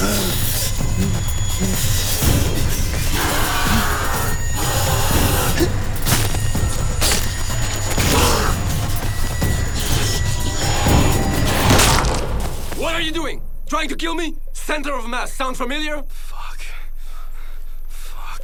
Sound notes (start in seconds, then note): 0.0 snarling; 7.9 gushing; 13.1 gunshot